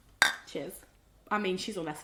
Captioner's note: bottles clink